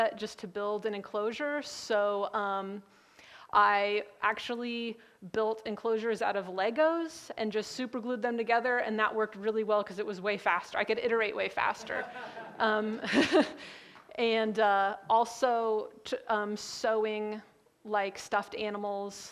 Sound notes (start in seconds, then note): 11.9 laughs